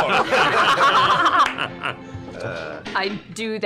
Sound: laughter

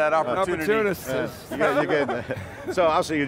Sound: all laugh

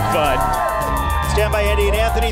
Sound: crowd cheering

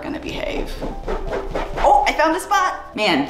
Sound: soft scratching

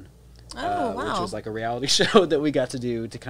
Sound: chuckles

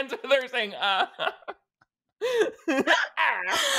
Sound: both laughing

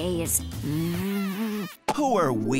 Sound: kissing

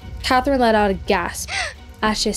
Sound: catherine gasps

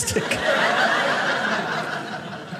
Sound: audience laughing

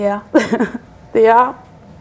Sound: chuckles

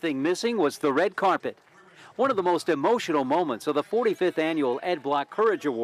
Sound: applause

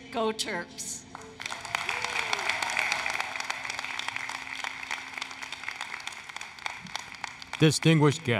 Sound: applause, Cheering

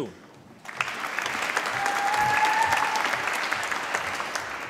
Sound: applause

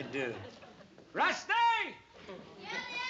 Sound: yelling

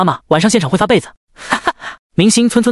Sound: hahaha……

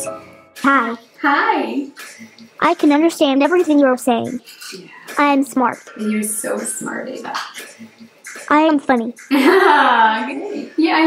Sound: laughter

